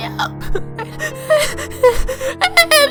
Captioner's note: sobbing